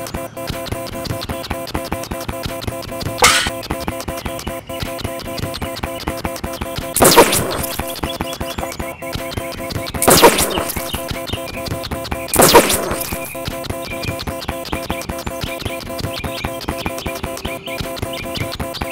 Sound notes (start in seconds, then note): 0.0 fast pounding footsteps; 3.2 crash; 4.0 fast pounding footsteps; 7.0 explosion; 10.0 explosion; 12.3 explosion; 13.5 fast pounding footsteps